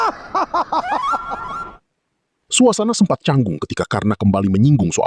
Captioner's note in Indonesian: tertawa